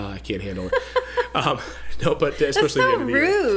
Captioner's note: laughs